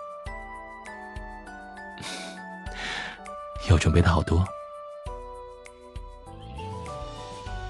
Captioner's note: chuckles helplessly